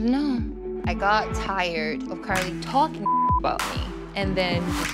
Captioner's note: beep